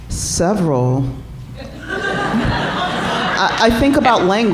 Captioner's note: laughter